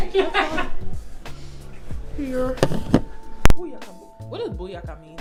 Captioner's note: off screen laughter